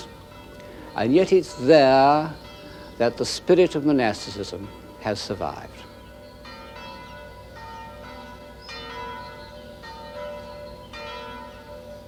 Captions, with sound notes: And yet it's there that the spirit of monasticism has survived. (Bells ring)